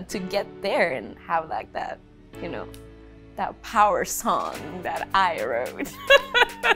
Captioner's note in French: Rire